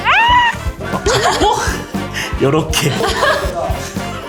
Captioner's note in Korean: 웃참실패